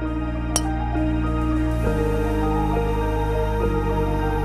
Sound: hitting golf ball

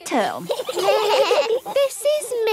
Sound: children giggling

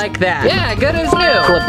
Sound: cheerful dinging

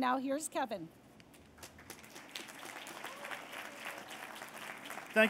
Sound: applause

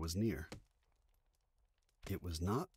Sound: a slow, rhythmic thumping sound play

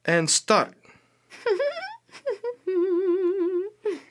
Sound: giggling

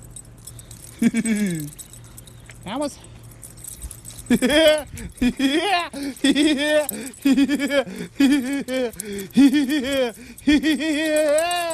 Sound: laughs

